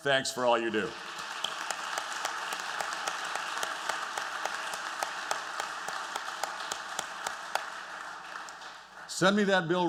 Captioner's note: applause